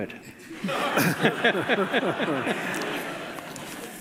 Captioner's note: laughing